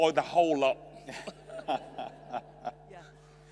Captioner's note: laughs